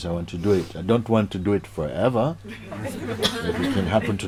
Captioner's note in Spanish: Risas